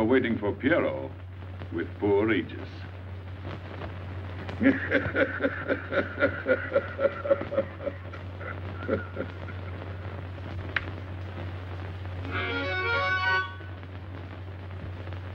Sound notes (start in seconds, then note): 4.5 laughing; 12.2 harmonica music